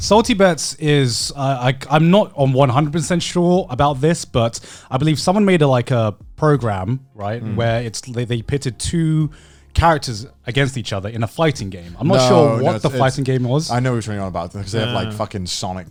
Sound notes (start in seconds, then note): 7.2 affirmative murmuring